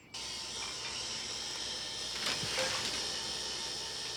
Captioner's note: juicer whirs